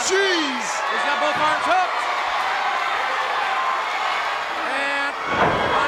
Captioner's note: crowd cheering